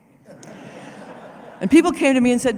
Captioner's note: laughter